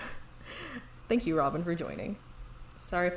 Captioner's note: laughs